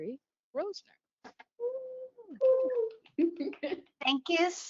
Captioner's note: applause